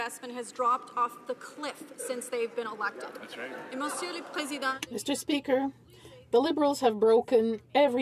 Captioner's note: some Applause